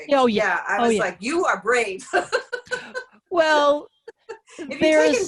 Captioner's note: laughs